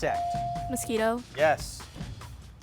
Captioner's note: bell chiming